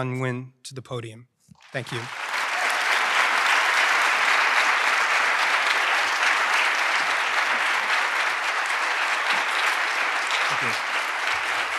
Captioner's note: applause